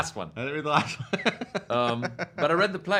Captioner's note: laughing